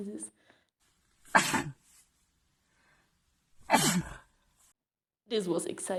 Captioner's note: double sneeze